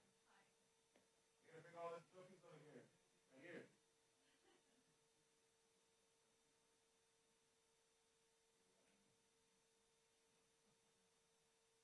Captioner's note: background chatter